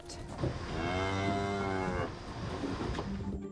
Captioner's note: cows mooing